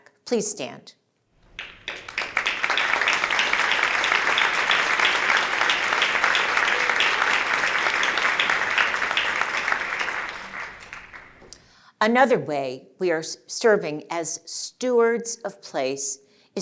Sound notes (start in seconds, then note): 1.5 applause